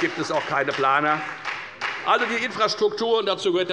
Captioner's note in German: Beifall bei der FDP